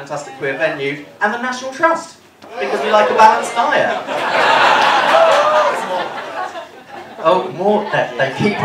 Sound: laughter

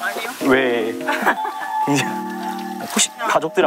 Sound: laughing while washing

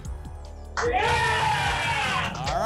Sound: applause and cheering

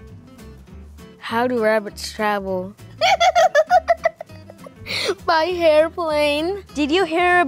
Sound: laughs

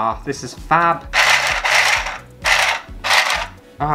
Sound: sewing Machine Motor

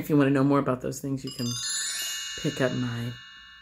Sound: chiming

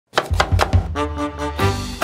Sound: chopping sounds; intro music

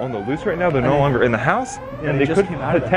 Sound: alarm blaring

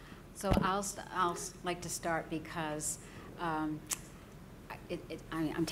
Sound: stammering

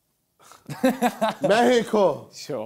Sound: laughs

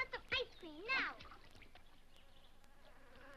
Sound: mosquitoes buzzing

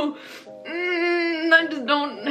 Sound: groans

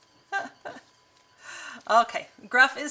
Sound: laughs

